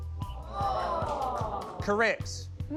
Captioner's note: all 'aww'